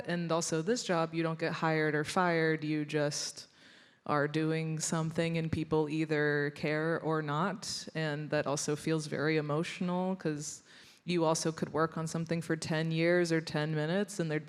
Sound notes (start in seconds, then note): none